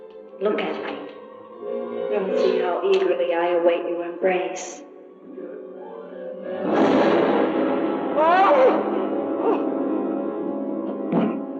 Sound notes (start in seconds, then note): 6.6 tense music; 6.6 yelling